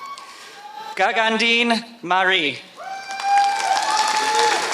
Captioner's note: applause